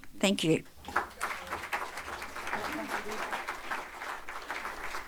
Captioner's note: audience applauding